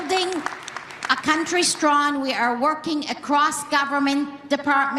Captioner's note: applause